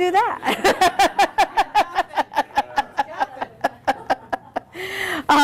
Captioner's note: laughter